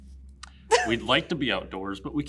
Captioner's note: laughs